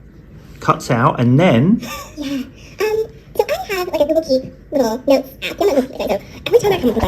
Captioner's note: audio of podcast goes cuts back in but double speed